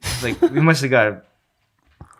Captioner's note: innocent chuckling